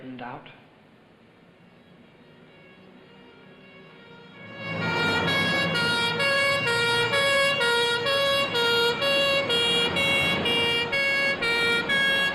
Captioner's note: siren wailing